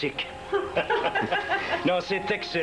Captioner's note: Rires